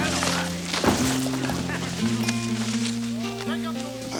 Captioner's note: body thumps; Crecencio speaks Spanish